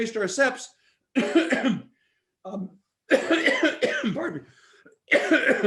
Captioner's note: coughs